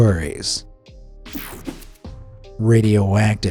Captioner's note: mellow music; graphic whooshes